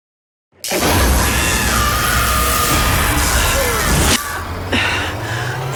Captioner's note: electrical buzzing; woman yelling